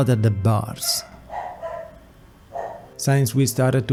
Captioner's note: dog barks